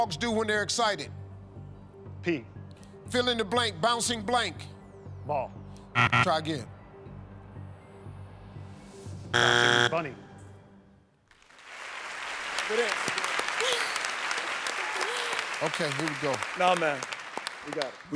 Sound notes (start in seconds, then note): 11.4 cheers and applause